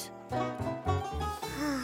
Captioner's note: content sigh